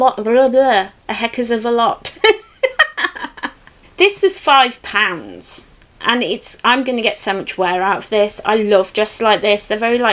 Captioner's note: laughs